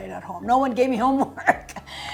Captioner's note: laughs